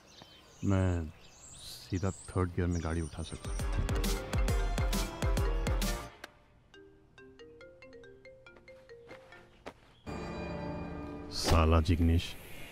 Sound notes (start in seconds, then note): 3.6 phone ringing